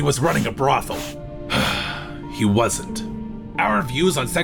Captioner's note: sigh